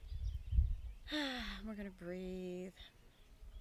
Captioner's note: birds chirping; sighs